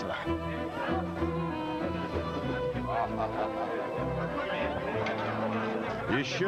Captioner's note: classical music; laughter